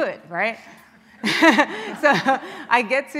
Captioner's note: laughing